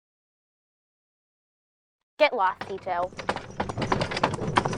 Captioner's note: horse carriage sound in the distance